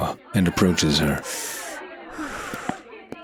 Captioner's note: Fenghua taking deep breaths